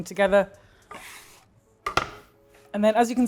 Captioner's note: scraper scrapes and taps